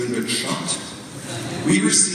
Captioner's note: audience laughs